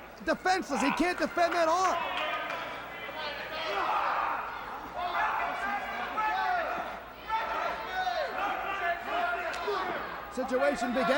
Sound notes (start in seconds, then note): 4.3 crowd chatter